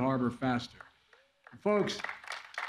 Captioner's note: applause